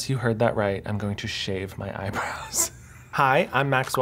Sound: laughs

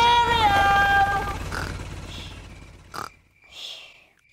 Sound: baby alexander snoring

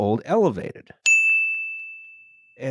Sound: ding!

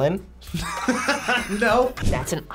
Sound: both laugh

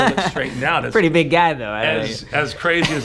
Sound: laughs

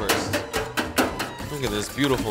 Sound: metal clanking

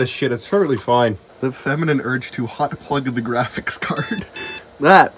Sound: beep beep

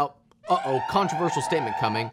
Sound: wailing siren

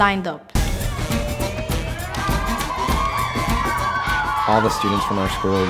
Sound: students cheering

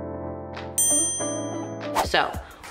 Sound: bell dings

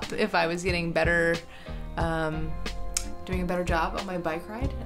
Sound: none

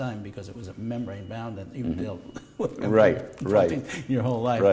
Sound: chuckle

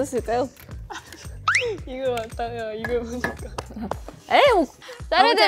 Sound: bursts out laughing

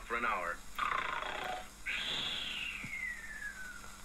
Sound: snoring Noises

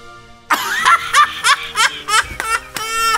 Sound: laughs

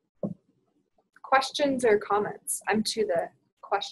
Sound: voiceover

